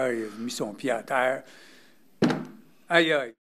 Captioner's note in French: bruit d'impact